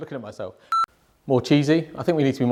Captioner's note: audio beeping